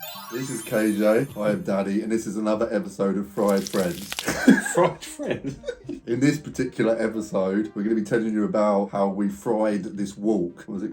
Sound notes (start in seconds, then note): 0.0 magical chimes; 3.3 bacon sizzling; 4.2 laughs